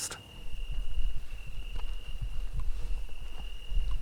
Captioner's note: insects chirping